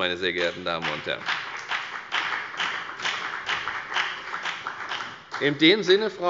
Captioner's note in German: Beifall bei der FDP